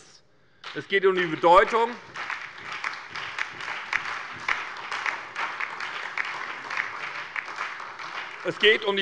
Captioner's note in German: Beifall bei der SPD, der LINKEN und der FDP